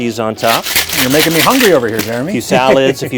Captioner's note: laughing